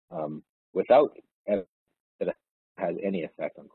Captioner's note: audio distorts